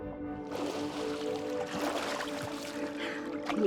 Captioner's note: water burbling; light serene music; water sploshing; Noah breathes heavily